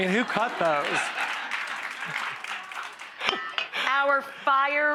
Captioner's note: audience laughing